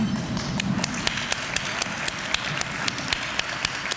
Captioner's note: applause